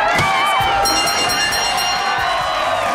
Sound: dinging

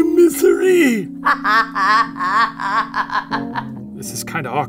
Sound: laughs

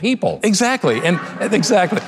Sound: audience laughing; audience applauding

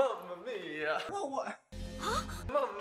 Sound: normal voice; laughing

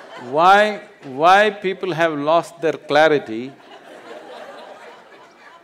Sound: laughter

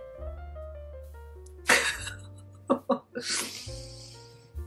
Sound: laughs through tears

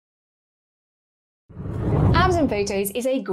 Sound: air whooshes

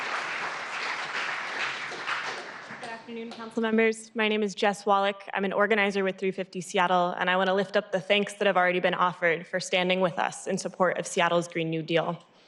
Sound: applause

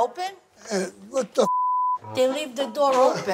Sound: beep

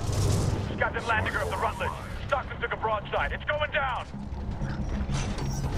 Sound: radio

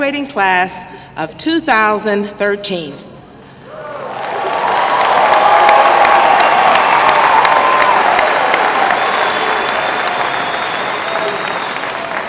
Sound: applause

